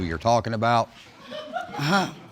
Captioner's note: scoffing; audience laughs